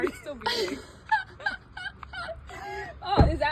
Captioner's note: light laughter